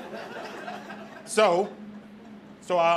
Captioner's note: audience laughs